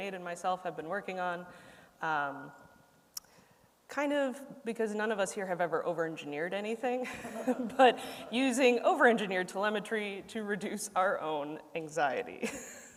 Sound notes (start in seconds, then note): 7.0 laughter